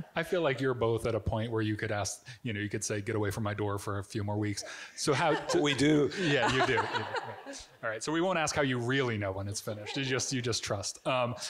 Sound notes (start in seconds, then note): 7.1 Barbara giggling